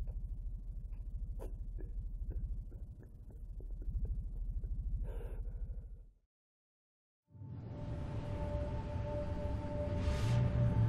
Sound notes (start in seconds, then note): 1.3 sobbing softly; 7.3 mysterious music